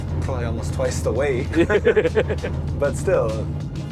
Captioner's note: laughs